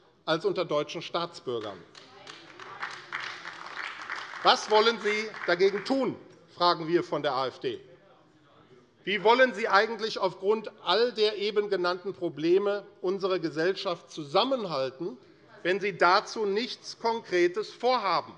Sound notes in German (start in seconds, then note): 1.5 Beifall AfD